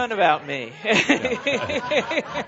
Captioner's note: laughter; laughing